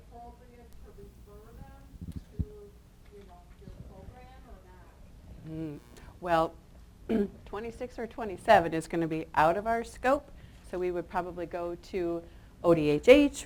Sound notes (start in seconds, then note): 7.1 clears throat